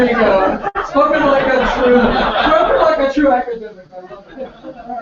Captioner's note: laugh